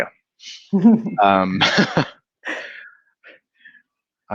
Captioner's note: laughing